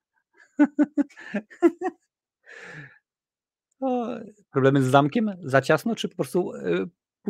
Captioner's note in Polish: śmiech